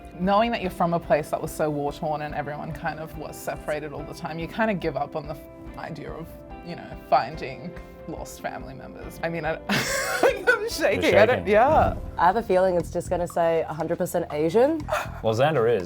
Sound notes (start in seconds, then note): 9.7 laughs nervously; 14.8 chuckles